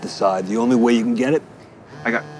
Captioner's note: phone ringing